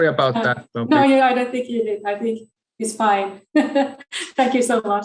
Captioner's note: chuckles